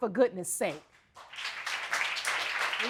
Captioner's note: audience applauding